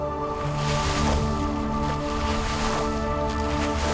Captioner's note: water splashing